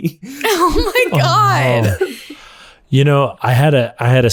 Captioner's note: laughs